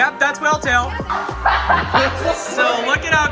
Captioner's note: laughing